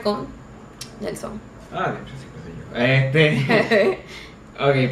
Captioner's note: nervous laughter